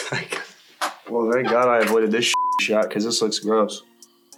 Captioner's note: beep